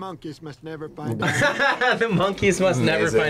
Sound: laughs

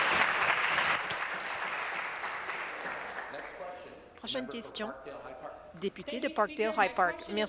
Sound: applause

